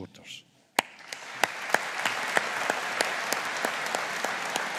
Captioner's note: graduates applauding